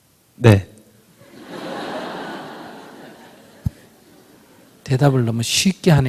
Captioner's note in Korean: 청중 웃음